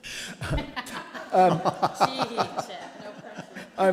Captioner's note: board laughing